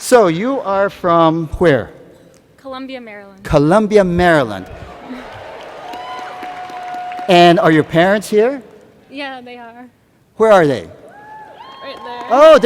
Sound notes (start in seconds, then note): 4.9 cheers and Applause